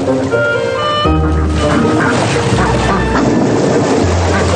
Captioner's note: ducks quacking